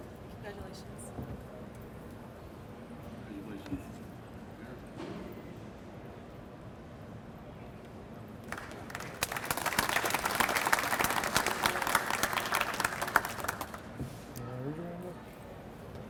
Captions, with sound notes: - Congratulations. (audience applauds)